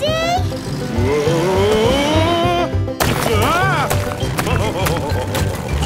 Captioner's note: laughing